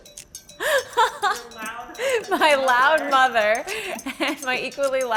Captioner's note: laughs